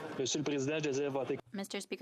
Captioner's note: speaking French